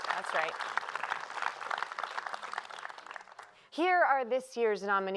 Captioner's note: applause